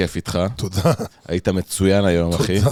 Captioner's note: laughter